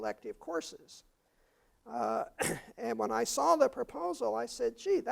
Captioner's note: cough